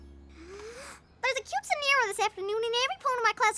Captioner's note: inhales deeply